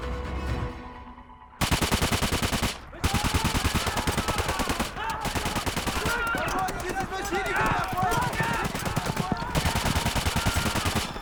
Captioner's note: gun fire and men screaming